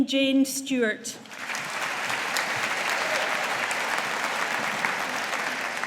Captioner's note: audience applauding